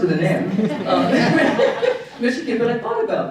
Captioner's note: audience laughing